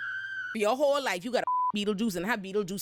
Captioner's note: beep